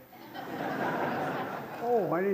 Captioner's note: laughter